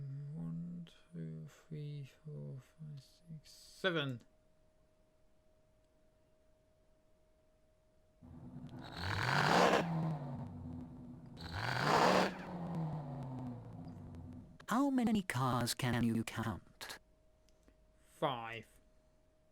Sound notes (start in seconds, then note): 0.2 counting up to seven; 8.2 stuttering car acceleration